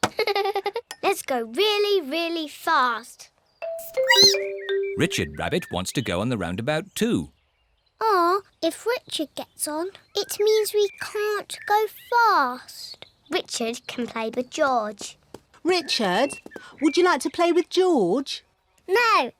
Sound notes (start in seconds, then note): 0.1 giggles; 4.1 squeaks